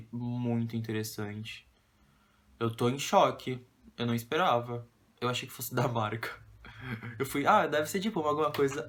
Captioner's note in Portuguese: risos